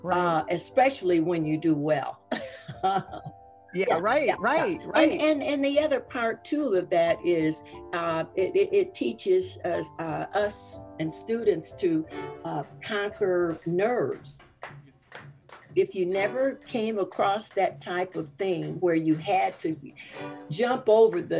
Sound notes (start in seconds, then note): 2.3 laughs